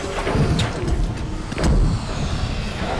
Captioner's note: thud sound